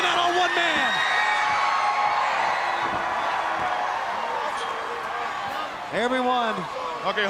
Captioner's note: crowd chattering